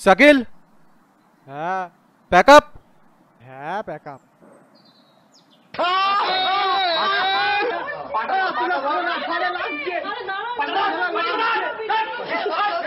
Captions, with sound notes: Shakeel. Yes. -Pack up? Yes, pack up. (yells loudly) Hold his legs. Let go of me. It's hurting.